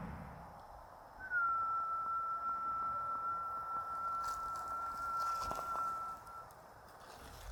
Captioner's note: whistle